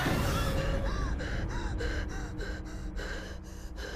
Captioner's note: Maria gasping